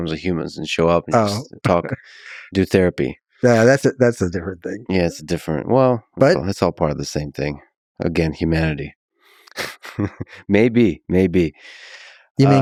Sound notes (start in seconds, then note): 9.5 Lex chuckles